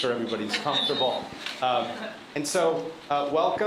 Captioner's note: laughter